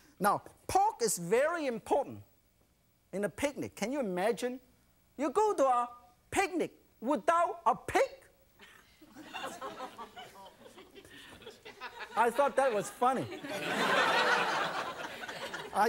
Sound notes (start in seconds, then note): 8.6 audience chuckles; 14.1 audience laughs